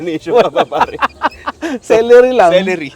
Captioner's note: laughs